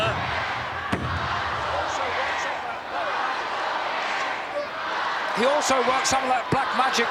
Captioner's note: crowd chants "Macho Man"